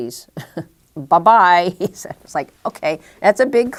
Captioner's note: chuckle